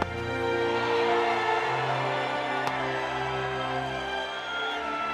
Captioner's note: crowd cheering; light orchestral music continues